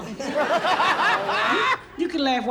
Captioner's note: audience laughs